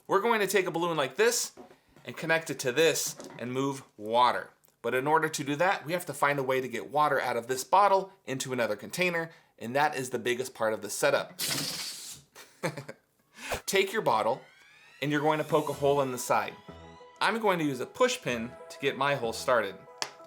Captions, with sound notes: We're going to take a balloon like this and connect it to this and move water. But in order to do that, we have to find a way to get water out of this bottle, into another container, and that is the biggest part of the setup. (air releasing from balloon) (giggle) Take your bottle. And you're going to poke a hole in the side. I'm going to use a push pin to get my hole started.